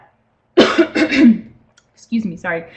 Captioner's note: clears throat